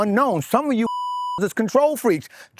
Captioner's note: beep